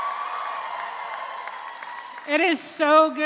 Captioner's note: audience applauds; audience cheers